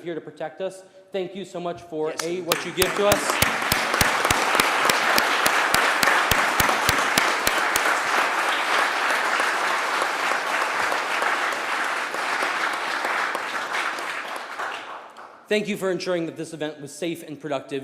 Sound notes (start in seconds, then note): 11.4 applause